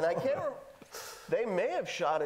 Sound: laughing

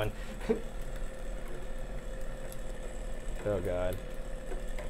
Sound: machine buzzing

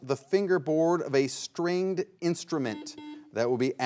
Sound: buzzer beeps twice

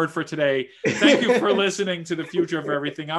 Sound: laughs

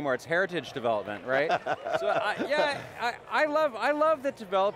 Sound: laughs

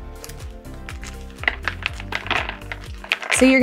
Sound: berries clunking

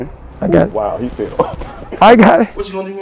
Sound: laughs

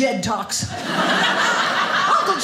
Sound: audience laughing

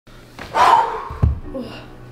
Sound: loud exhaling

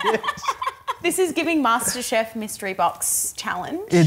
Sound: laughs

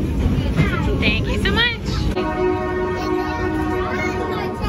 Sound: train blows horn

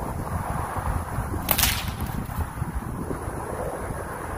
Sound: whip cracks

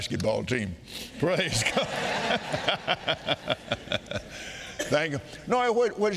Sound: all laughing

